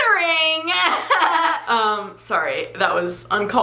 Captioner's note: laughs